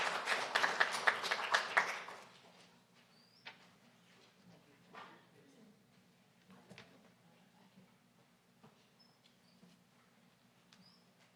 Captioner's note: applause